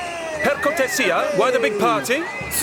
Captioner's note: speaks Italian